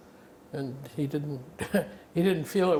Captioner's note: laughing